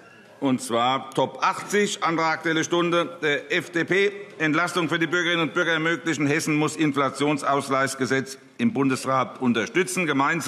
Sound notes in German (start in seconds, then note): none